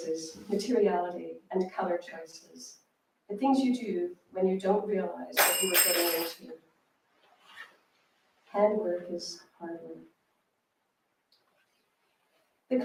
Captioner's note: clanging